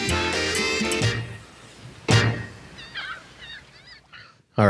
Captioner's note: instrumental music; birds calling